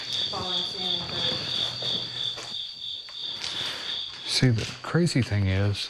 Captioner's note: loud chirping sound